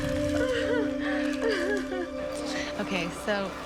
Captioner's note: cries